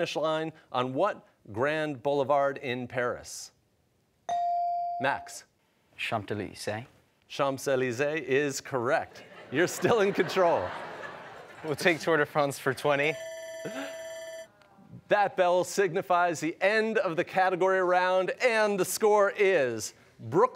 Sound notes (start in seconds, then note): 9.2 laughter; 13.1 bell ringing